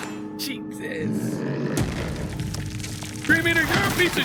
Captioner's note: blood spills